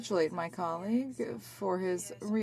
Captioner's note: speaking french